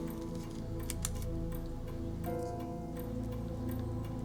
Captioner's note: pen clicking